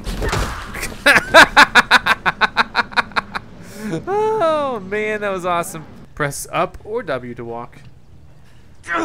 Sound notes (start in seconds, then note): 0.0 thud; 0.8 laughs